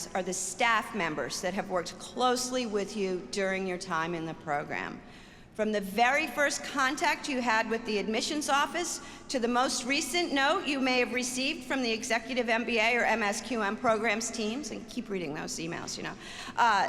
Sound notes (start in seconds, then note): none